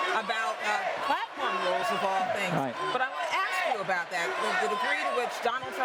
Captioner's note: crowd noise